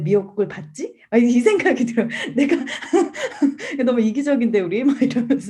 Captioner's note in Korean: 웃음